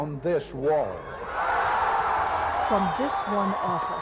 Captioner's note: crowd cheers